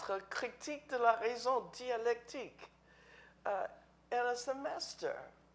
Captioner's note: speaking in foreign language